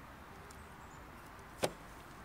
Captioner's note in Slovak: dopad fľaše na trávu